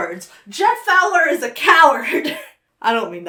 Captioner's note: laughs